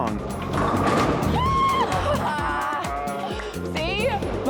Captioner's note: cheering